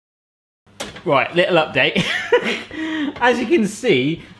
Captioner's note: laughing